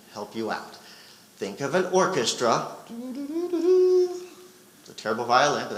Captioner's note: vocalizes